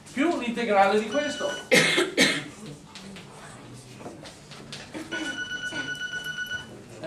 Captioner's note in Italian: squillo di sveglia telefonica